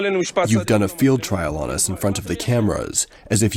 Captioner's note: through translator